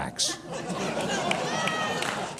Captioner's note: audience laughs